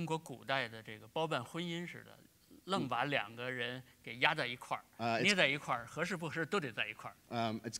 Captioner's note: speaking in Chinese